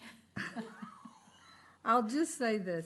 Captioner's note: laughter